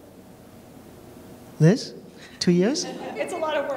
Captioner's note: laughter